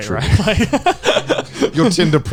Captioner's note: laughs